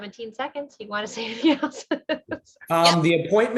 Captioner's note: laughter